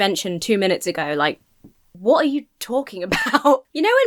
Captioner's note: laughs